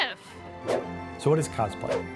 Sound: air whooshing

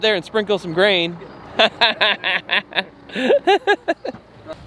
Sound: laughing

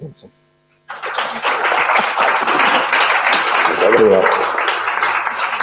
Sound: audience applauding

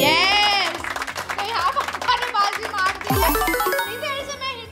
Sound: applause

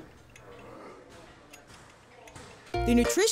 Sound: gym sounds

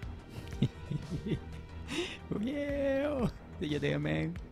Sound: laughing

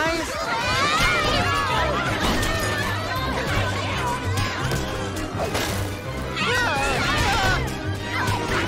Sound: yelling

